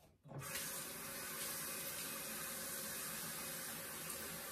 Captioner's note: running tap water